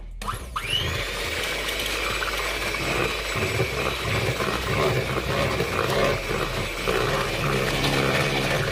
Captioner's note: mixer buzzes